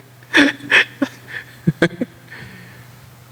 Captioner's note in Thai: เสียงหัวเราะ